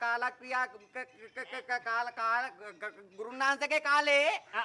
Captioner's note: stutters